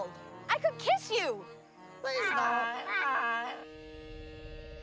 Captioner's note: squawking